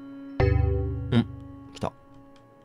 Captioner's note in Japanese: 📩 受信音：デェン！